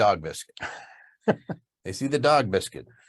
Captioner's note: laughs